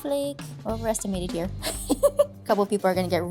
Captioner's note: laughs